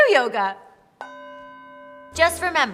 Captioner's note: gong rings